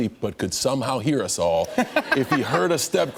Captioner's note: laughter